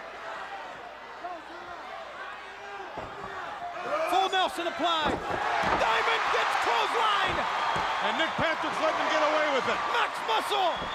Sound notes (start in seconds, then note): 5.1 crowd chatter; 8.0 crowd cheering